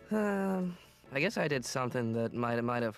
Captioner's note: sighs